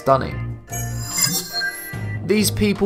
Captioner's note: sharp chiming